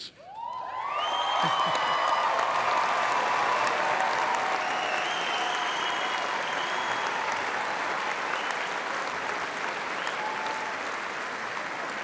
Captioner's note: applause